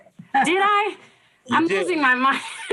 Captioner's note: laughs